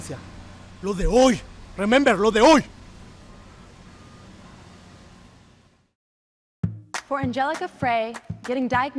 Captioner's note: speaking spanish